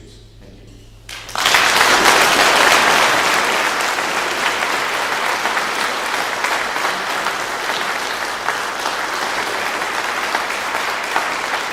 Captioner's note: clapping